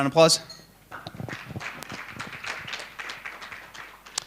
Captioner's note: applause